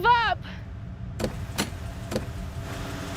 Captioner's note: doors opening; suspenseful music